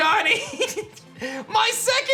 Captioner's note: giggles